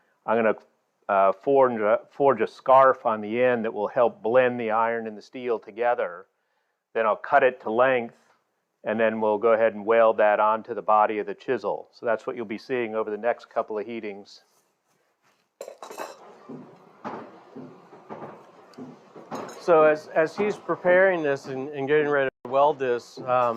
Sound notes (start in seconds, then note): 15.6 tools clatter; 15.9 rattling